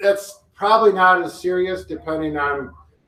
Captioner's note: none